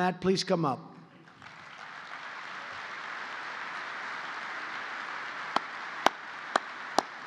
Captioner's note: applause